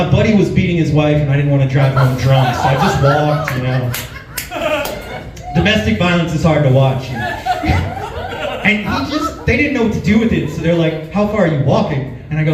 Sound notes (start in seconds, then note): 4.2 laughs; 6.7 chuckles